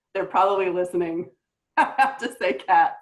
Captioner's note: laughs